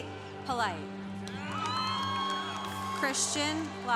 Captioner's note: congregation applauding